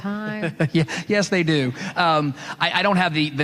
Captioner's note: laughing